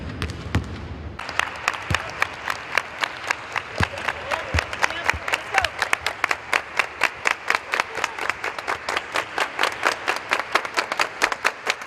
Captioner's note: clapping